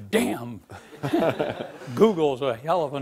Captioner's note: laughing